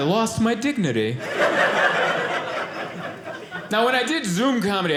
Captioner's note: audience laughing